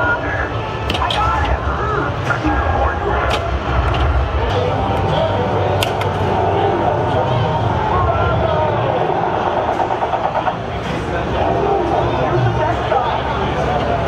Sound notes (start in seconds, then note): 5.8 flippers clicking; 9.6 guns firing